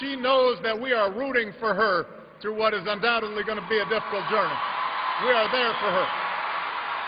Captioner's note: applause